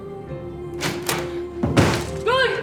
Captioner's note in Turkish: Kapı açıldı